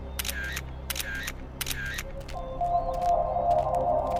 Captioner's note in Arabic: نقرات الكاميرا; موسيقى غامضة